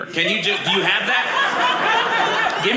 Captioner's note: audience laughing